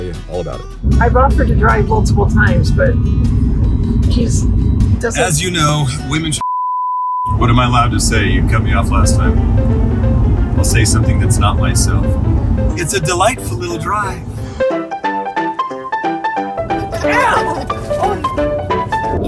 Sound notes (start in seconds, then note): 6.4 beep; 14.6 bouncy piano music; 16.7 laughing; 16.8 grunts